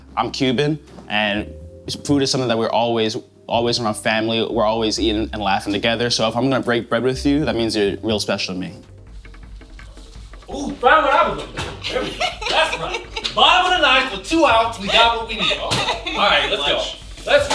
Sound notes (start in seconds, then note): 9.2 drum music; 11.9 laughing